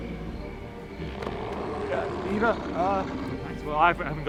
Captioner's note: Eric continues growling